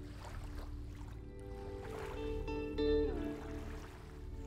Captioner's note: water splashing